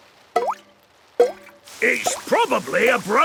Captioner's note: water dripping